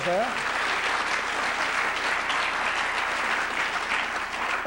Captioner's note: applause